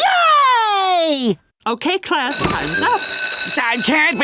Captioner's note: bell ringing